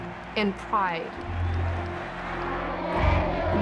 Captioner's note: group cheering